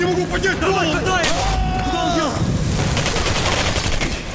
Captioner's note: russian soldiers shouting in Russian; one of said Russian soldiers screaming in agony as the TMD does its magic; more gunfire